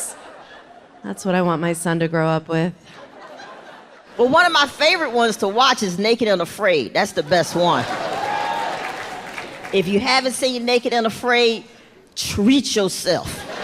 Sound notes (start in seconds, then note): 7.8 audience cheering